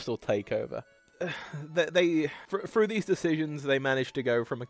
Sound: sigh

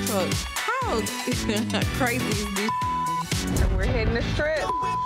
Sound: beep

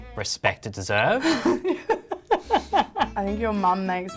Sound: laughs

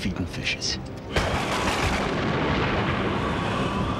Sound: thunder

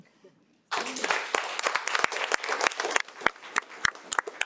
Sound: audience clapping

